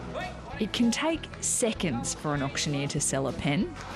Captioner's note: auction ambience